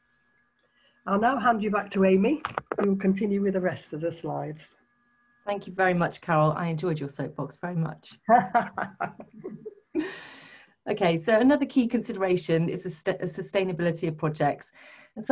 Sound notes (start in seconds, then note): 8.3 laughter